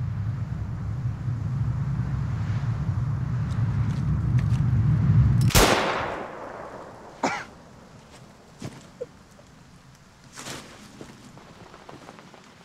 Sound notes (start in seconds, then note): 5.4 shooting; 7.2 coughing